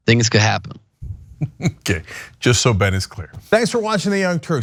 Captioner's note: laugh